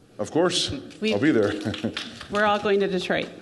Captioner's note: audience applauding